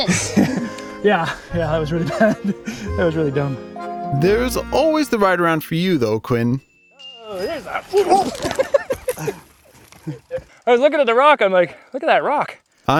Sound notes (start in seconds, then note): 0.0 laughs; 7.2 laughs